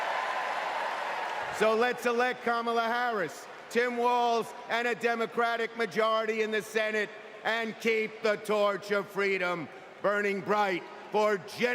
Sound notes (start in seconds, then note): 2.6 cheers and applause